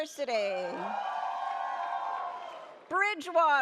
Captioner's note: audience cheers